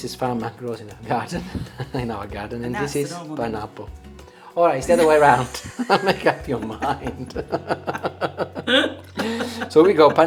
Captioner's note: laughter